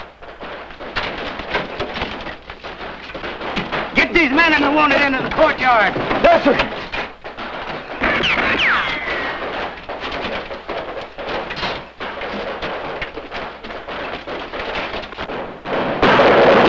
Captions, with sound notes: (bomb exploding) - Get these men at the long end of the courtyard. - Yes, sir. (guns shooting)